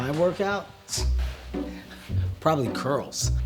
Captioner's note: laughs